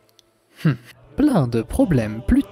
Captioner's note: mmh of french disappointment